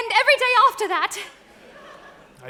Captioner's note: audience laughs